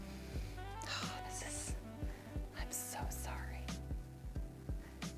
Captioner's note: whispers